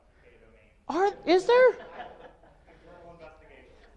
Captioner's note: audience laughs